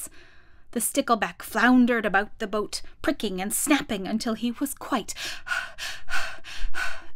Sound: breathing

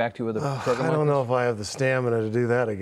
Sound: sighs

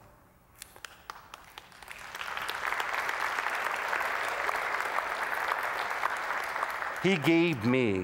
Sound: applause

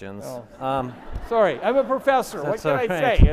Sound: audience laughing

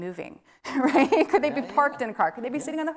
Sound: laughing

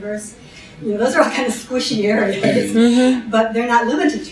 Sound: laughs

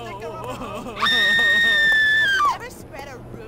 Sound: more casual screaming

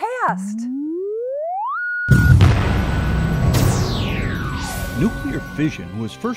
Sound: sound Effects

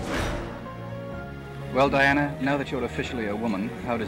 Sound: whoosh

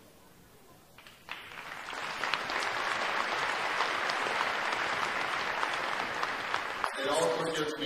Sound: applause

